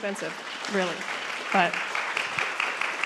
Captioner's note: audience applaud